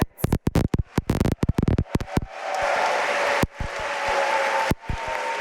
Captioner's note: audience cheering and applauding